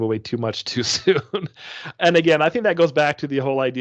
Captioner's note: chuckling